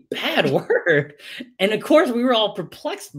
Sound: laughs

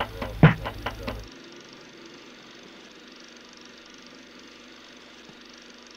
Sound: film projector running

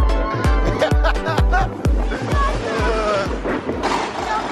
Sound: laughing

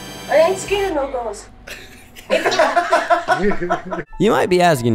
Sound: laughs

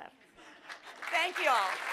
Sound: crowd claps

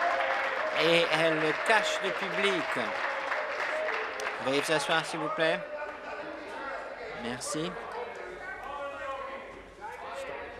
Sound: applause

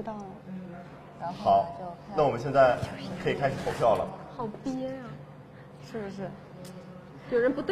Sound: whispering

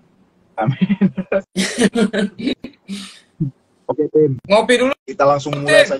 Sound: laugh

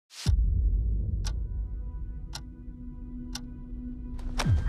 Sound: clock ticking

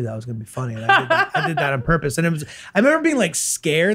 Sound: laughs

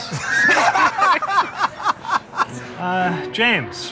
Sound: laughter

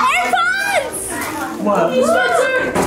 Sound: family chatters excitedly

